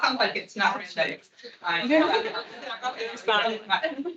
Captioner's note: attendees laughing